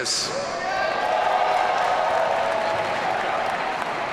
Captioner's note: audience cheering